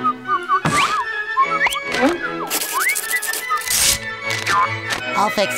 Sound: whistling

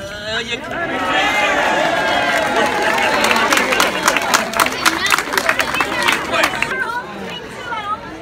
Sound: cheering

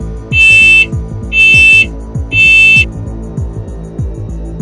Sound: alarm Voice; smoke alarm beeping

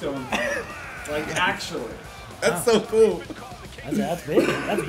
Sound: laugh

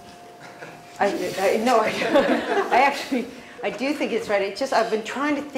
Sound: laugh

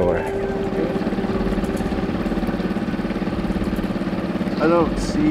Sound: engine droning; ominous music continues

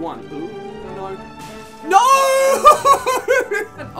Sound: laughs

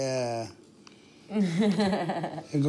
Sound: laughs

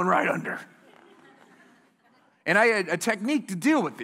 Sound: laughter

